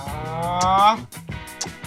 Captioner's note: raising voice